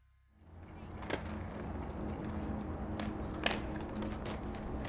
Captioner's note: skateboard wheels rolling